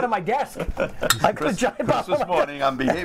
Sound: laughter

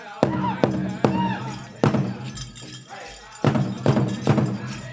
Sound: dancer chanting shouts

